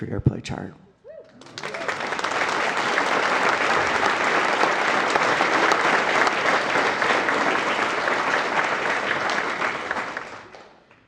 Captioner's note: applause